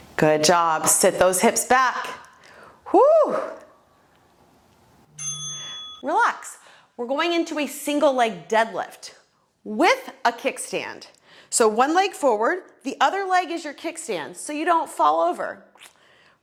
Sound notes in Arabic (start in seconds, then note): 5.1 قرع الجرس